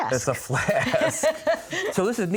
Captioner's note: laughing